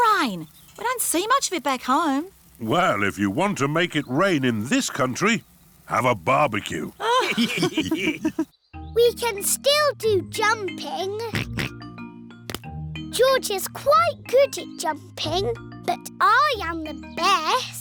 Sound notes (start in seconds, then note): 7.0 all laughing; 11.3 oinks